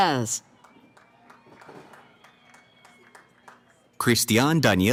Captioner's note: cheering